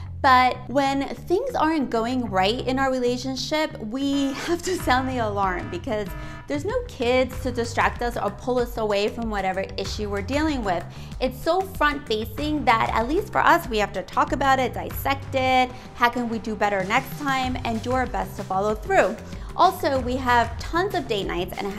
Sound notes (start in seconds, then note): 4.6 alarm blaring